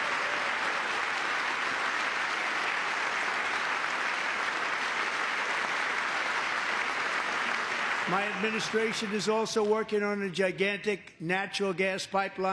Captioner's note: applause